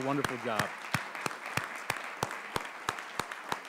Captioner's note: applause